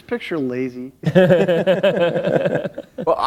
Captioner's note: laughter